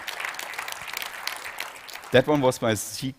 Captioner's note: applause